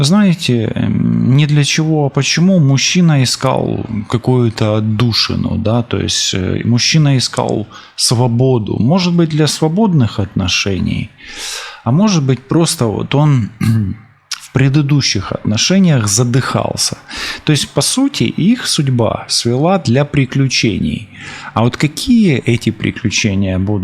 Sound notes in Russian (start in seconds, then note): 13.5 фыркает; 13.5 откашливается